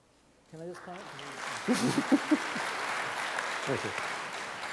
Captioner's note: applause